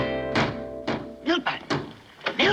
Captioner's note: loud pounding